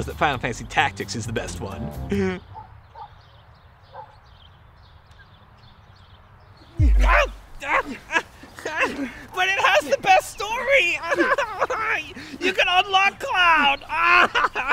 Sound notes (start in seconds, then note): 2.1 giggles; 4.0 birds chirping; 7.2 screams